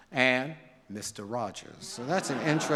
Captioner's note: audience laughs